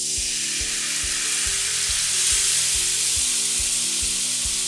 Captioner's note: tomatoes sizzle